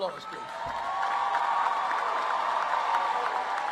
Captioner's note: applause